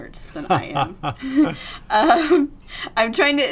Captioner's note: laughs